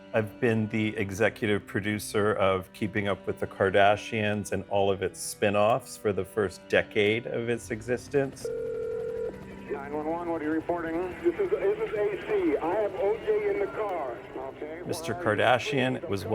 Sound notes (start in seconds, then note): 7.9 soundbite of archived recording